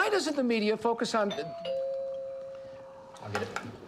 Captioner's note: doorbell rings